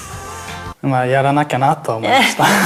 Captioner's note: laughs